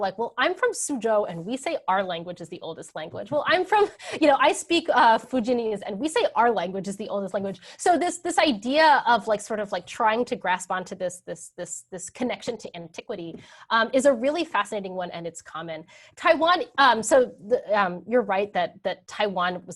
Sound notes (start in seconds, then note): 3.7 laughs